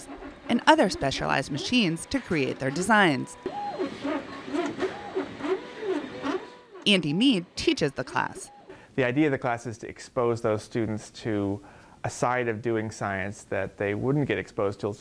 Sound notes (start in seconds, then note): 3.1 printer whirring